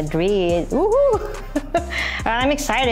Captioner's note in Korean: 웃음